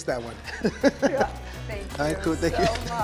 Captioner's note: laughing